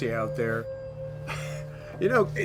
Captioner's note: scoffs